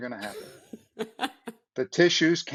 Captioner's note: laughs